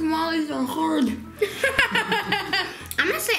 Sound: laughs

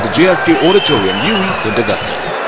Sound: wild applause and cheering for 22 seconds

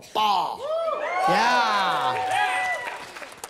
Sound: cheering

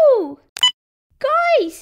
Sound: beep!

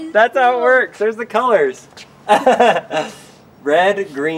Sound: laughs

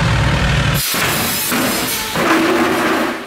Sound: metal clanging; saw whirring

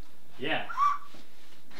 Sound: blows whistle

